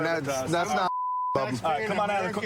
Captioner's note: chatter